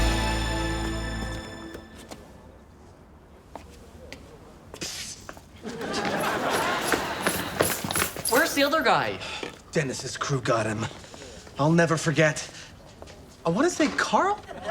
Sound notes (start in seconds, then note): 4.6 whispers